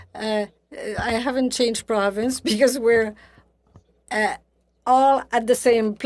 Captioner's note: speaking French